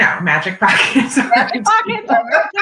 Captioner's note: laughter